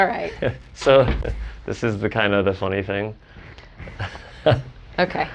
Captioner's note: chuckles